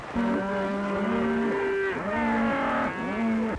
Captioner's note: mooing